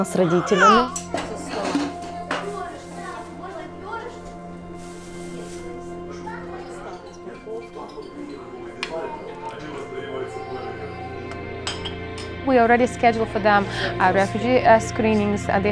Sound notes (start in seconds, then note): 1.1 family conversing in Ukrainian